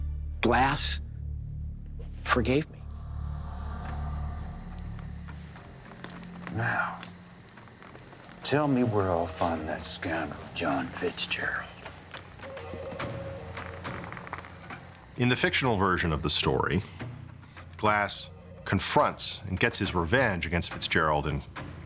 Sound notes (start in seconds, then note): 4.5 fire crackling; 13.0 tense music